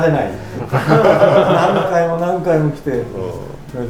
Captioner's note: laughter